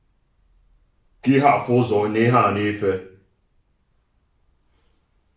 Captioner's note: igbo language